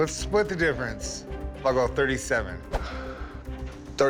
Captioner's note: sighs